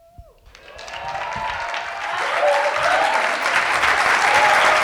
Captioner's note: audience applauding